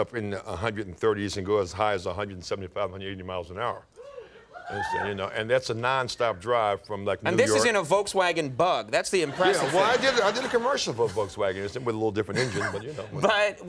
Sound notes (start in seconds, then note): 4.6 audience cheering